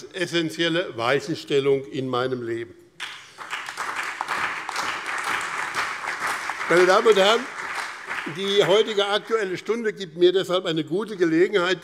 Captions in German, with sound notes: essenzielle Weichenstellung in meinem Leben. [Beifall BÜNDNIS 90/DIE GRÜNEN, CDU und Freie Demokraten] Die heutige Aktuelle Stunde gibt mir deshalb eine gute Gelegenheit,